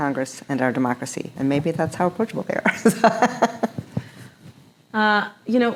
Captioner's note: chuckles